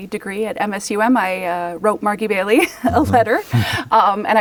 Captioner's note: laughs